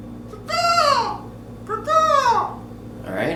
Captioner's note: imitating bird cawing